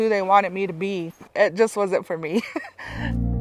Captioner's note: laughs